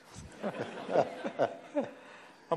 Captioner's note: audience laughter